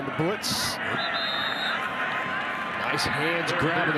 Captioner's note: referee blows whistle